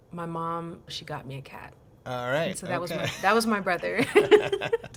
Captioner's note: laughter